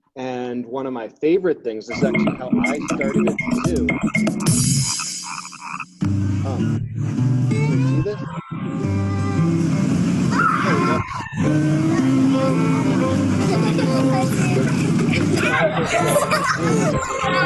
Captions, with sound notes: And one of my favorite things is how I started at the zoo. (frogs croaking) (soft country music) There we go. (girls chuckling)